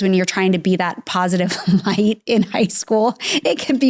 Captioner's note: laughs